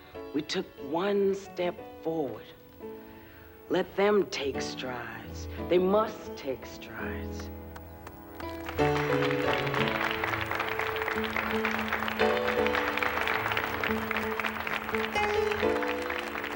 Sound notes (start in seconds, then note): 8.0 group applauding; 8.8 uplifting music